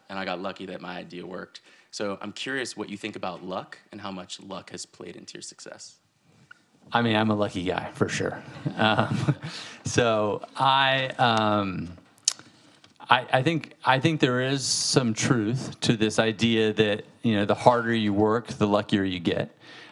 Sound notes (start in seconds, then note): 8.4 all laughing